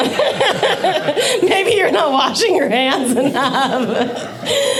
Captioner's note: laughing